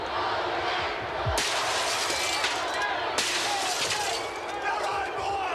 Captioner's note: glass smashing